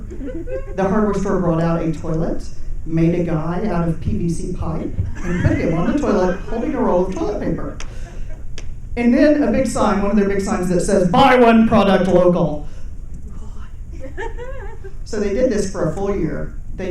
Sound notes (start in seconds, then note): 0.0 people chuckling; 7.9 people chuckling; 12.7 whispers 'OMG'; 13.8 people giggling